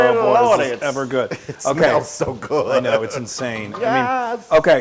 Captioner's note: laugh